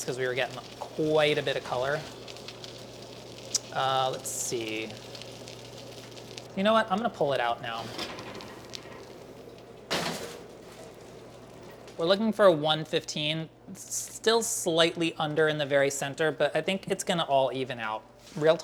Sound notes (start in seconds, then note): 2.3 beef Wellington sizzles; 9.8 pan clatters